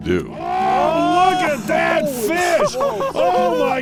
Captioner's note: voiceover